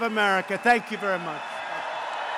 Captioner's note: applause